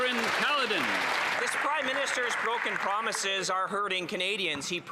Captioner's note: applause